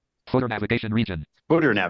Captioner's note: computer voice